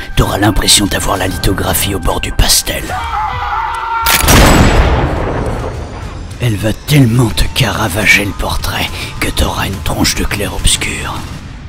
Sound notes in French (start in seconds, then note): 3.0 Hurlement